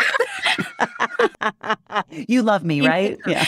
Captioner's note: laughter